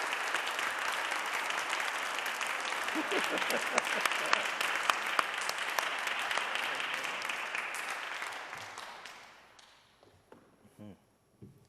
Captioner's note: audience applauding